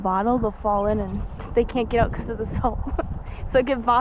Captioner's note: laughs